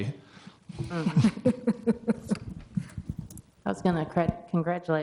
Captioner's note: laughing